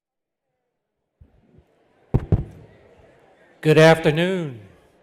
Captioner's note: attendees clamoring